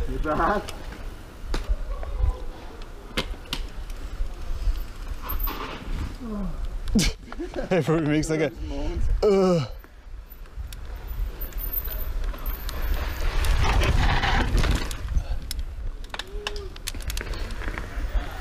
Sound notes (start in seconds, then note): 1.6 group chatting and laughing